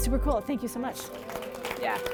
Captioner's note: applause